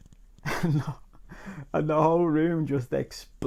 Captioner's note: laughs